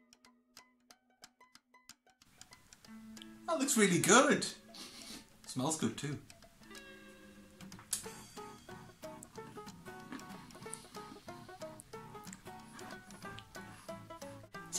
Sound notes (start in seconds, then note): 9.9 eats biscuit